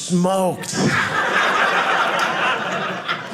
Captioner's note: audience laughing